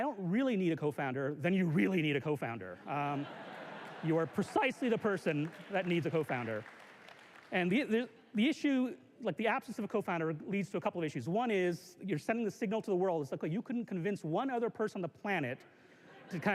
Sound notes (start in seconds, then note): 2.8 laughter; 6.7 applause